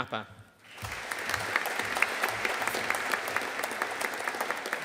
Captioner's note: audience applauding